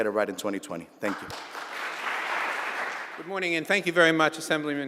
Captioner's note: applause